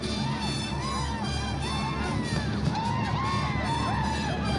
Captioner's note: yelling